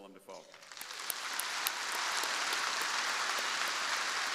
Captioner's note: crowd applauding